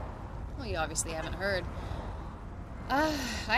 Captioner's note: she sighs